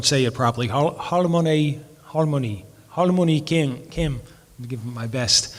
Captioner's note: speaking in foreign language